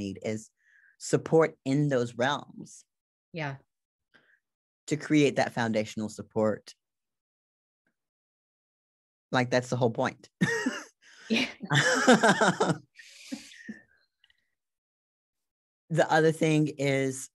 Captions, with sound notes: is support in those realms. - Yeah. - To create that foundational support. Like that's the whole point. (laughs) The other thing is,